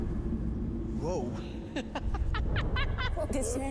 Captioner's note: laughs